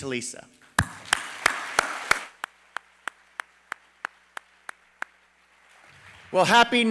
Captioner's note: applause